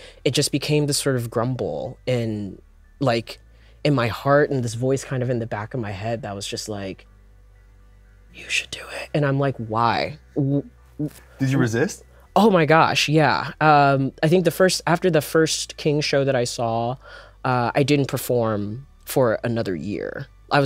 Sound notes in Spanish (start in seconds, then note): 8.3 susurra; 9.0 voz normal